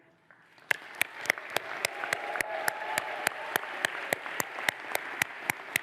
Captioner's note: audience applauds